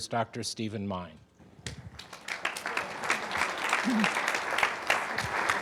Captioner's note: audience applauding